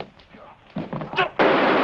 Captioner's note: gun firing